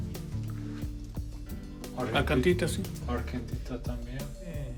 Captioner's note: both speaking Spanish